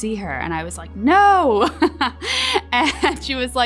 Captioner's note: laughs